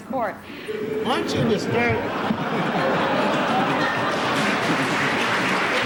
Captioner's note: laughter; applause